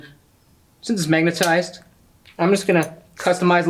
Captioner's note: magnet clicks